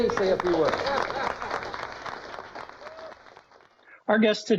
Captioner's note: applause